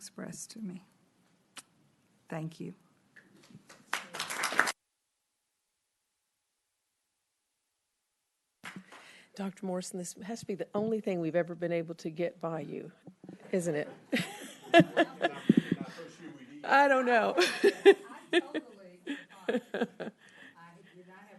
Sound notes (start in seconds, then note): 3.7 applause